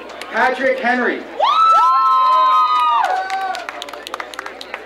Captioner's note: crowd cheering